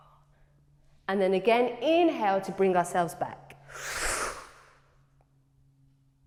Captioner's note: inhales